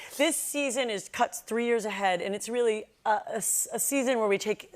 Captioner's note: none